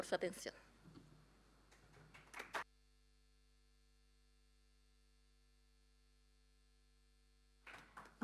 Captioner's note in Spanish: Aplausos